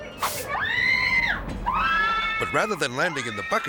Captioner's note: catcher screaming